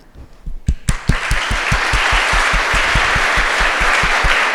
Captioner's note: audience applauds